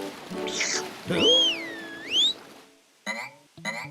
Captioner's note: whistles